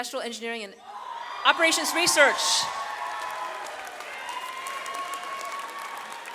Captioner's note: audience cheers